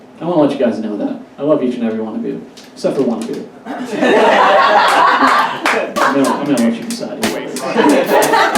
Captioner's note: audience Laughs